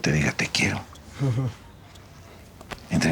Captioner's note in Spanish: Ríe